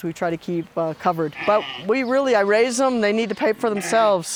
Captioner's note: sheep bleating